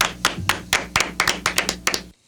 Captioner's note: clapping